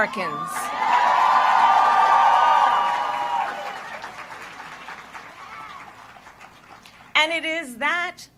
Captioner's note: applause